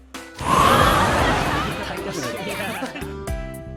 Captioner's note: whoooosh